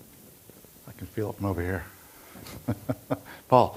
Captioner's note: chuckles